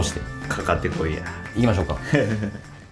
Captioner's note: laughs